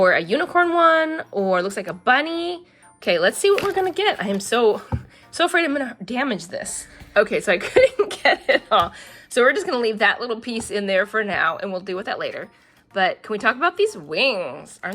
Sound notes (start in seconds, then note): 4.7 laughs